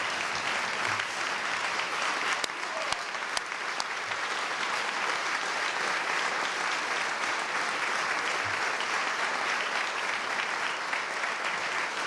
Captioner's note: applause